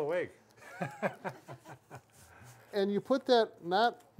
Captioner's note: everyone laughing